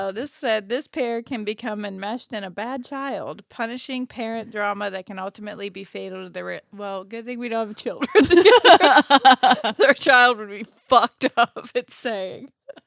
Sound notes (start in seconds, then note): 8.1 laughing